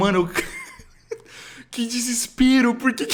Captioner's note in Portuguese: Risada nervosa